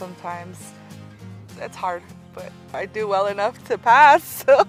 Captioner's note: laughs